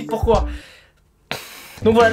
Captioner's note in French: soupirs